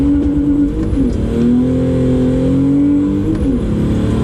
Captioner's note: clutch slip